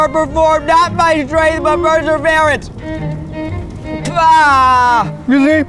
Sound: spitting

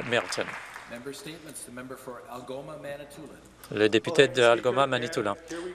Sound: some Applause

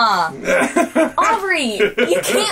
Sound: laughs

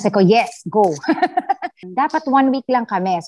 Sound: laugh

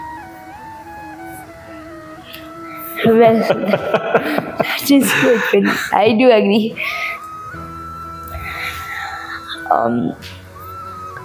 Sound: laugh

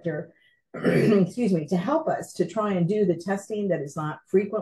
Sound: clears throat

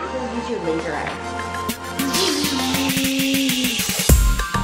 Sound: laser eye sounds

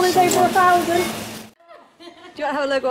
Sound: laughter

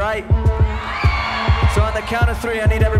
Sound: crowd cheers

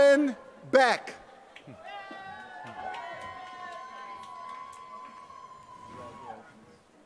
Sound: applause

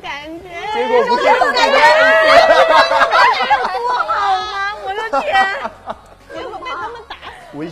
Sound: laughing and talking

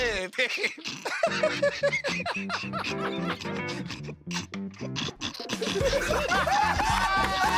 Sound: laughs; laughter

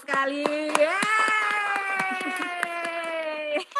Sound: applause

